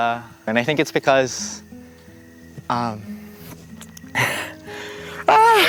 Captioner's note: laughing; cheering